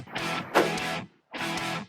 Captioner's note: gunshot